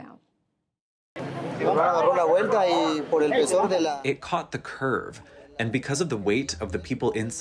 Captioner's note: through translator